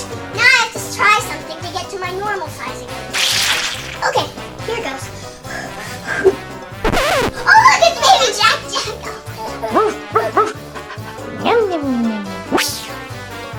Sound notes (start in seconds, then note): 9.6 dog barking